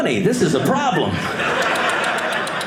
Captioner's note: audience laughing